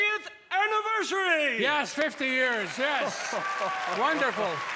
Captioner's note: cheers and applause